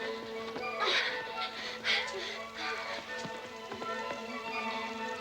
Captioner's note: Rottenmeier panting